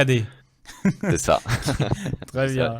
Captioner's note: laughs